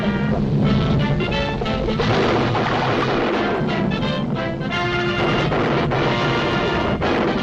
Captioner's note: light dramatic music; volcano roars